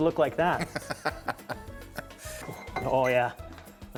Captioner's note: laughter